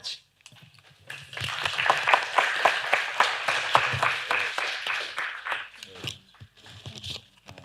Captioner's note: applause